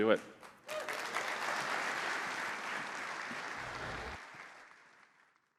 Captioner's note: applause